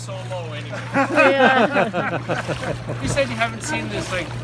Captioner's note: everyone laughs